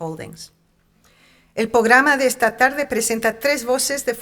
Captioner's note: speaking in Spanish